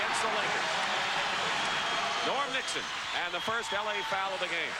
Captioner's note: crowd cheers